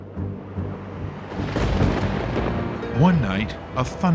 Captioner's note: thunder